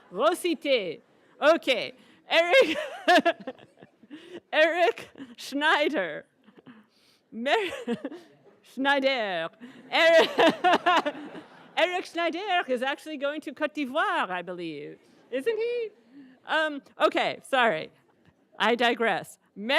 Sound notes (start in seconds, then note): 2.6 laughs; 7.2 laughs; 13.6 speaking in foreign language